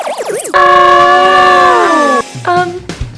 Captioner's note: electronic spinning; all yelling